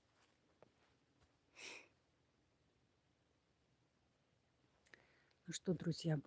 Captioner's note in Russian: вздыхает